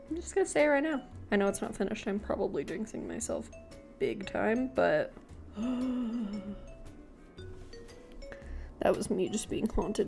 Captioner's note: A haunted sigh